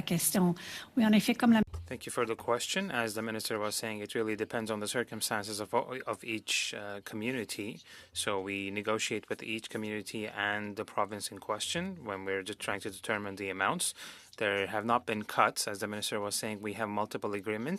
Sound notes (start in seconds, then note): 6.0 speaking French